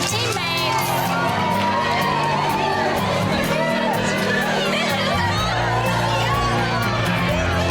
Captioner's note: upbeat guitar music; women cheering